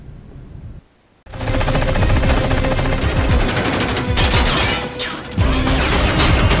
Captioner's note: machine guns firing; dramatic music